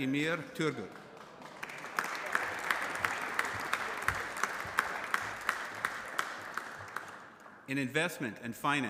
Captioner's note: applause